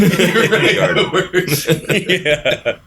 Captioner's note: laughter